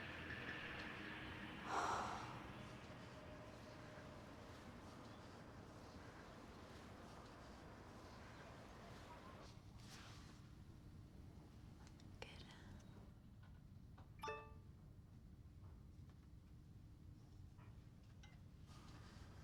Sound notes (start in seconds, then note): 1.6 Liz sighs; 14.2 laptop chimes